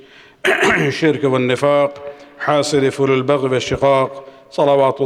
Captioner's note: arabic